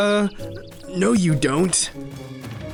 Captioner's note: fake voice